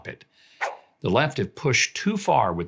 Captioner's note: air whooshes